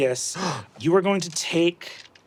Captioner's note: gasps